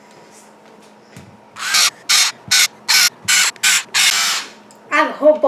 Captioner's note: electric Spritz Noise